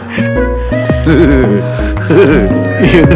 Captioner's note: Navas laughing